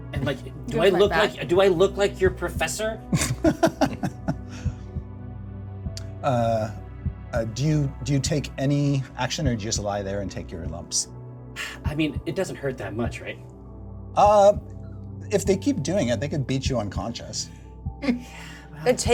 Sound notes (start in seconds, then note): 3.1 laughs